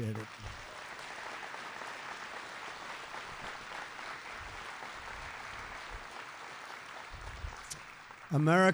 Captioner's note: applause